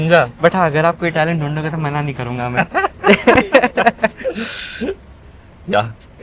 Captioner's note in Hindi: हंसी